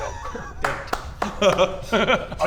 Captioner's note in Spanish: Aplausos sarcasticos